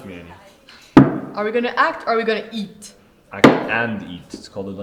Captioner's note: bottle clangs against table; sighs